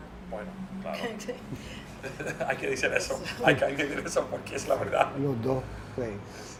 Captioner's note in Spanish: risas